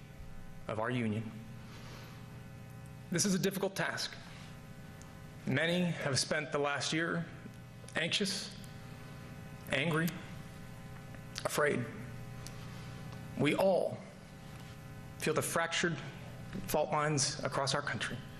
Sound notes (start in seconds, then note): none